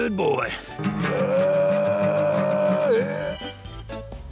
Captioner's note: vocalises gruffly